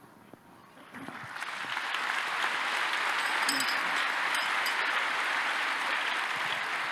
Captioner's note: applause